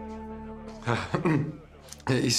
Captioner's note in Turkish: Boğaz temizleme sesi